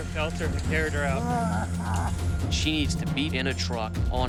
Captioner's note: coughing